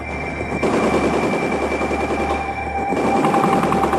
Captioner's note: guns blasting